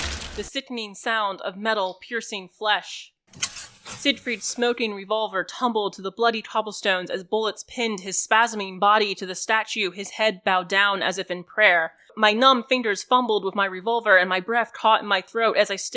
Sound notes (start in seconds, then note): 3.4 a revolver falling